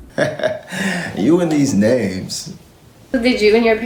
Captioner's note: laughs